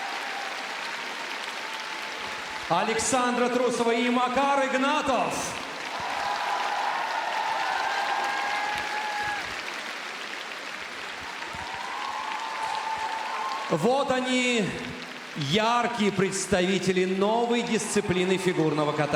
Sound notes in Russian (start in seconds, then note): 8.9 аплодисменты